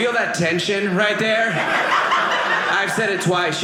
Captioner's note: audience laughing